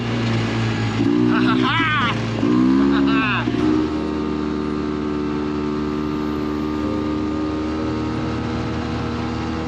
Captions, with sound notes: Ah, ha, ha. Ha, ha, ha. (engine humming)